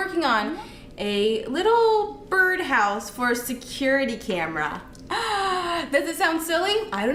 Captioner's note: gasps